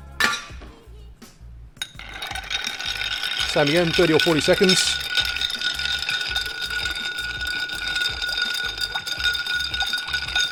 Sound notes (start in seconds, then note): 5.4 ice cubes rattling